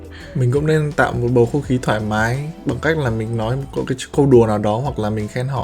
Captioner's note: speaks in a foreign language